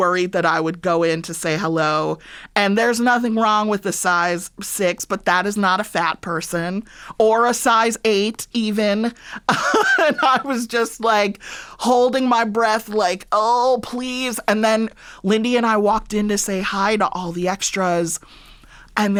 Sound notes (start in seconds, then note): 9.4 laughter